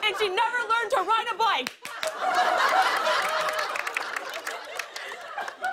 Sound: laughter and applause

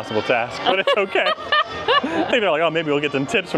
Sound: laughing

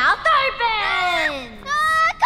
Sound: boy screaming

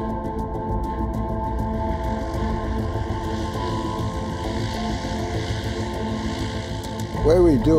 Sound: planes diving

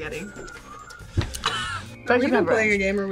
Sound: laughs

